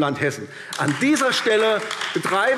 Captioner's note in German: Beifall AfD